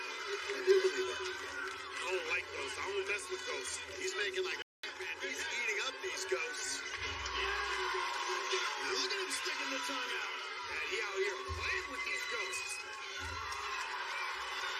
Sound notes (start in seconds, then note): 6.6 cheers and applause